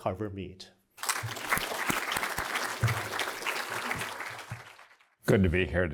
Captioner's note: applause